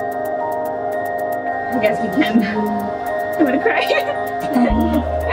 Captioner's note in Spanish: He He